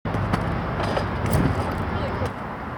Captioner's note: pole rattling